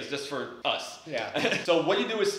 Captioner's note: laughs